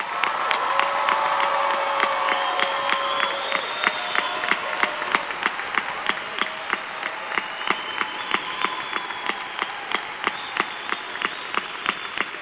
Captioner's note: applause